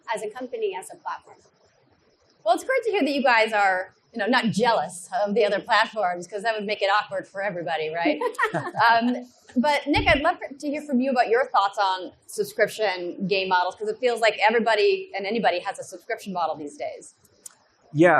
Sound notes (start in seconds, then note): 7.9 laughs